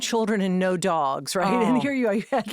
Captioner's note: laughing